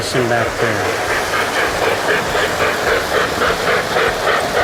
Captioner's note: trains whir and chug